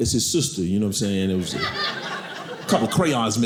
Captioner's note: audience laughing